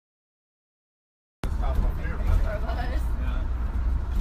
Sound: chatter

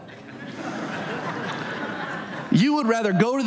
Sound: audience laughs

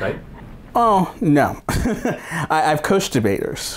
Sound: laughs

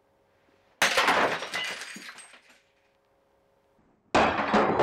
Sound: glass shattering; glass rumbling

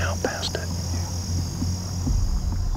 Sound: whispering

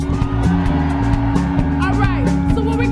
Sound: audience cheering

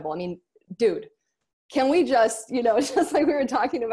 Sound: laughs

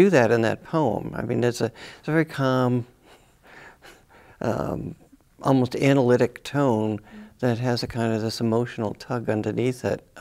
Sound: chuckles

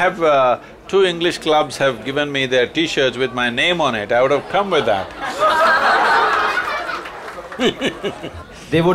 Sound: laughter

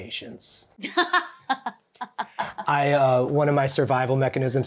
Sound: laughing

